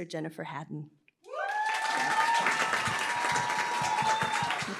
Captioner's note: applause, cheering